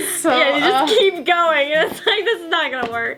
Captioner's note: laughing